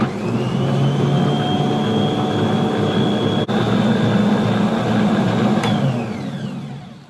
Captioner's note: mixer noises